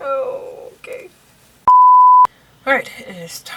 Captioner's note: beep